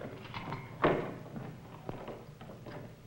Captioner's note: door Opening